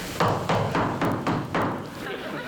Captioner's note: tapping